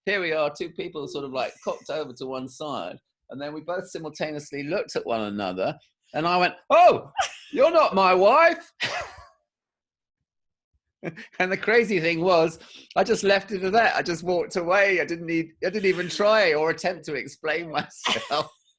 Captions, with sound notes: here we are, two people sort of like cocked over to one side and then we both simultaneously looked at one another and I went "Oh! You're not my wife!" [Laughs] And the crazy thing was I just left it at that, I just walked away. I didn't even try or attempt to explain myself.